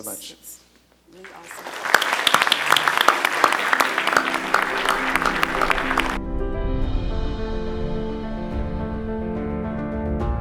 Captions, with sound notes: - So, thank you so much. - Its really awesome. [a round of applause]. [outro music].